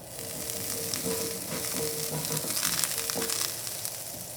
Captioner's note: pan sizzling